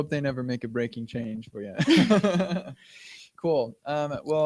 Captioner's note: laughter